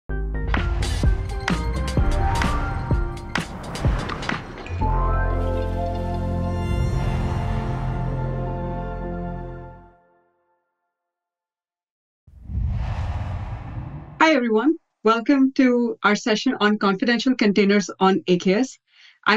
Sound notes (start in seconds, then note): 0.1 air whooshing; 0.6 upbeat music; 12.3 air whooshing